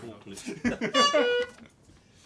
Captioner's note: honk